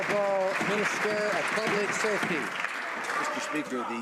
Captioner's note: some Applause